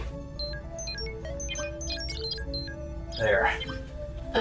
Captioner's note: computer beeps